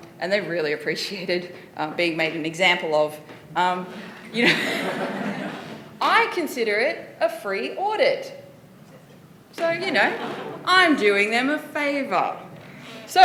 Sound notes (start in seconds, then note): 3.9 laughter